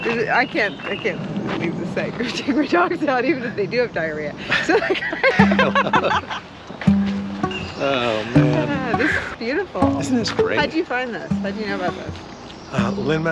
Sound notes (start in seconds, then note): 4.5 laughing; 6.8 banjo music